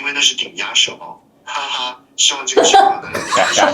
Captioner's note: laughter